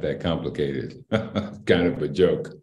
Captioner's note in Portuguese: Risos